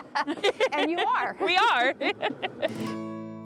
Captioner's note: laughter